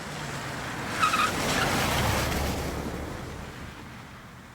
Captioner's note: tires skidding